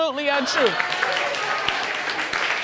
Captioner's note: applause